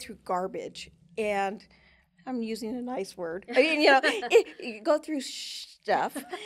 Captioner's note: chuckles